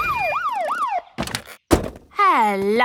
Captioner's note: siren stops